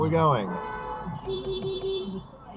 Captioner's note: beepbeepbeepbeep